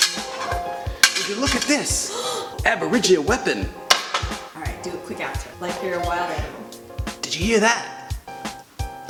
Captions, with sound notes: Would you look at this? (Gasps) Aboriginal weapon Alright do a quick outro Like you're a wild animal Did ya hear that?